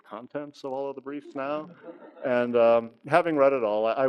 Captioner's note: audience laughs